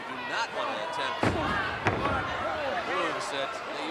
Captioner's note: body thudding